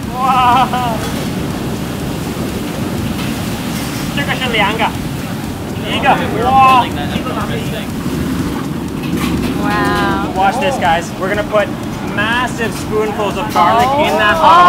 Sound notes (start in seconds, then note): 1.6 oil frying